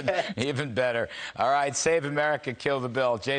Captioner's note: laughter